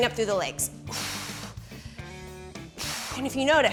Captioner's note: exhaling